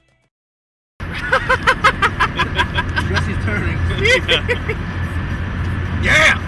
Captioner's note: laughter